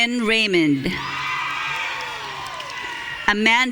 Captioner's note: audience cheering